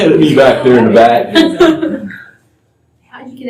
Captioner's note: laughter